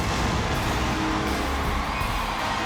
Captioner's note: applause